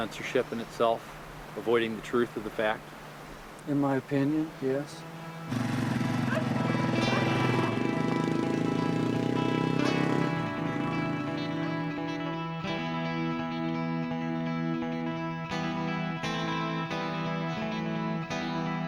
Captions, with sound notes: a form of censorship in itself? Avoiding the truth of the fact? - In my opinion, yes. (motorcycle engine sputtering) (suspenseful music)